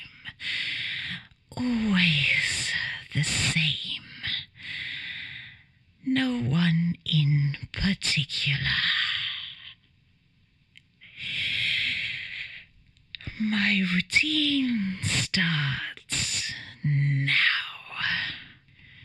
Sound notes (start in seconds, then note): 11.1 breathes shakily